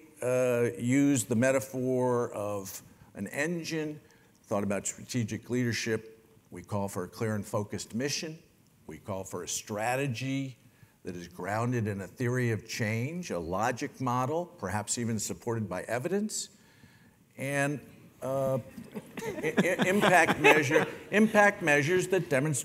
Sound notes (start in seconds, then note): 18.8 laugh